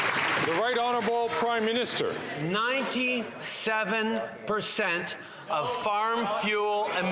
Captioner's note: some Applause